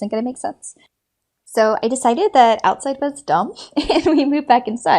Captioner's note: laughs